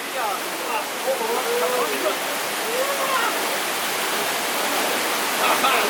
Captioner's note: murmurs of excitement